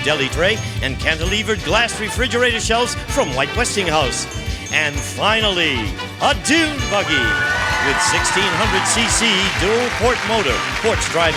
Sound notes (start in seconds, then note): 6.6 audience cheering